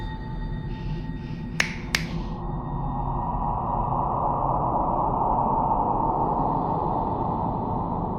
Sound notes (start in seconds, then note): 1.5 fingers snapping; 2.7 wind whooshing